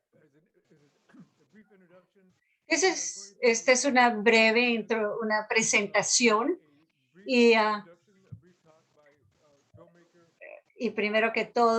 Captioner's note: non-english speech